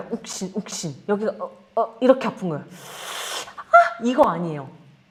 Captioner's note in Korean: 콧방귀